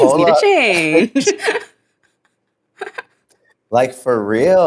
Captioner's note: laugh